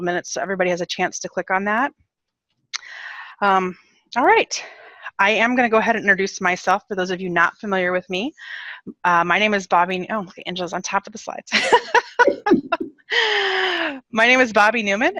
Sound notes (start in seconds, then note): 11.5 laughs